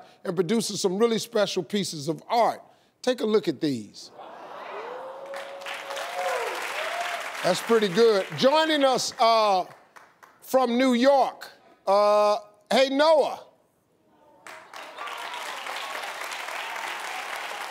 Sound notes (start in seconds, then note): 4.2 audience cheering; 14.4 audience clapping